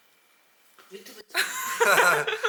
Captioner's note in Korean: 침묵